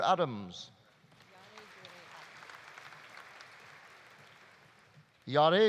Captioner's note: audience applauding